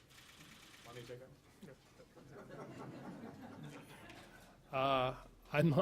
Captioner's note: laughing